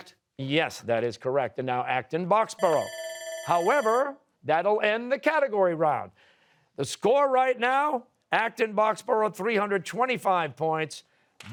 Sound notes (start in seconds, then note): 2.6 bell ringing